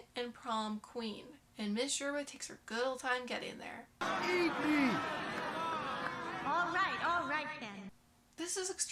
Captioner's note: angry murmuring